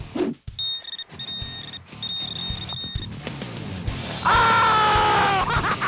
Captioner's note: beeping; screams